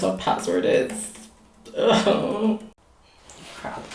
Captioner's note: cries